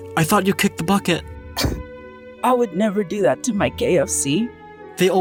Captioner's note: cough